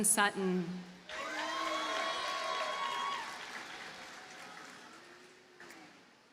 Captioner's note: audience cheers and applauds